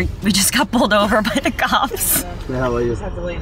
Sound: laughs

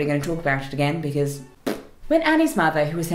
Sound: blows raspberries

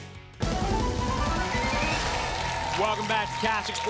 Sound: applause and cheering

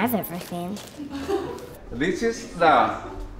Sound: laughing

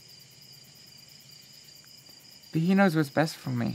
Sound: insects chirping

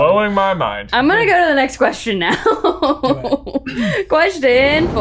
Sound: laughs

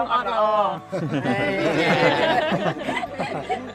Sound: all laugh

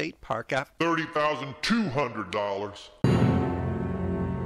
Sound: interrupting in a deep voice; tragic music

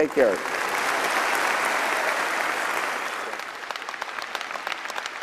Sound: applause and cheering

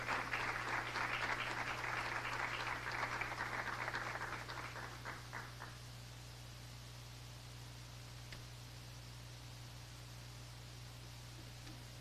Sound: applause

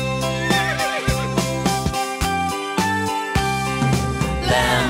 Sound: horse neighing

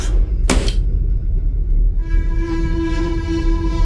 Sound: case slamming

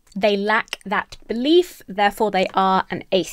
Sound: none

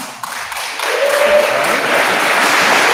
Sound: attendees applauding

